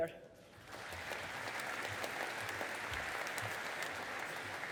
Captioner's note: audience applauding